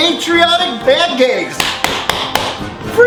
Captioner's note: fapping